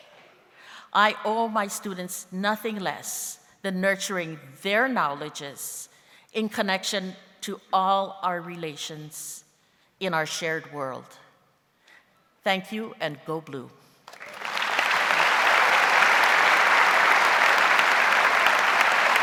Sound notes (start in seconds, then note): 14.0 audience applauds